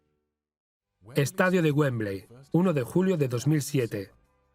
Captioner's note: voiceover